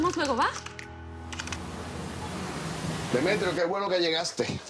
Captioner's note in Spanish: Sonidos al teclear